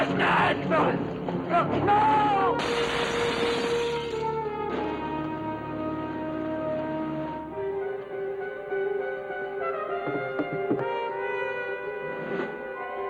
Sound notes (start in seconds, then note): 2.6 glass shattering; 7.4 dramatic orchestral music